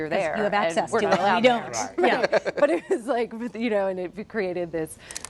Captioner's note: laughter